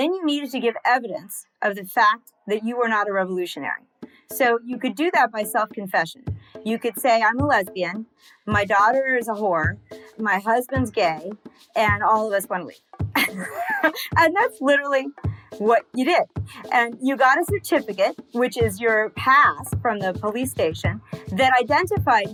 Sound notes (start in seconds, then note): 13.2 laughs